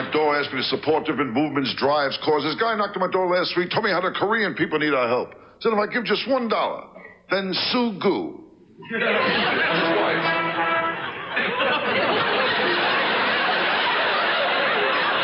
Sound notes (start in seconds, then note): 8.8 audience laughs; 9.2 orchestra riffs; 11.5 audience laughs